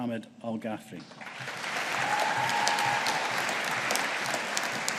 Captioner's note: audience applauding